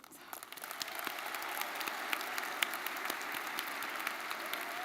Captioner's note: audience applauding